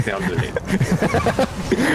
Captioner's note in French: rires